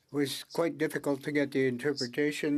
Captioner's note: speaking French